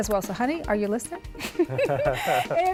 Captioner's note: laughter